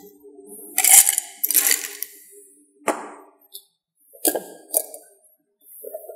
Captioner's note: ice crashing in glass